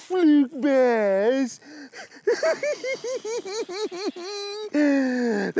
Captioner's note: laughing